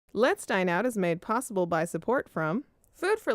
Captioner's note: voiceover